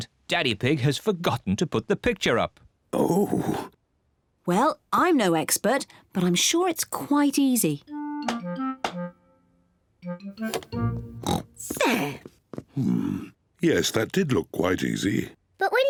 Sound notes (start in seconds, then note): 11.1 oinks